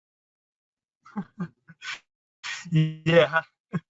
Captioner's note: chuckles